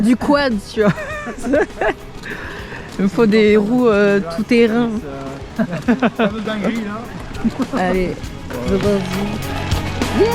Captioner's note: laughs